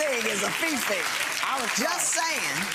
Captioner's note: clapping